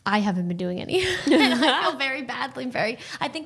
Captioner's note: both laughing